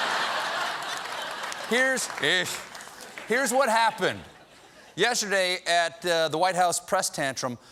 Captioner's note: laughter